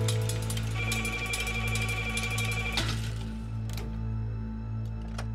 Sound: telephone ringing

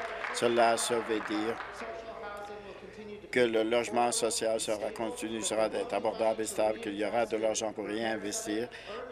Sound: applause

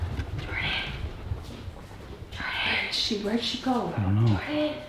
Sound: whispering

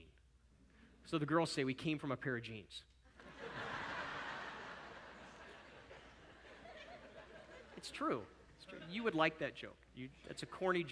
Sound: audience laughter

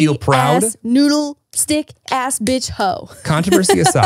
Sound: laughs

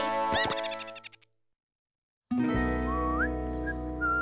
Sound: whistling

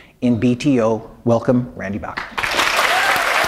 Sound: applause

